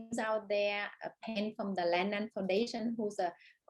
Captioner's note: audio breaks